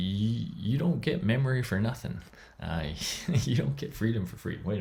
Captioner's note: laughs